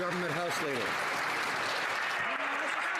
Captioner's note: some Applause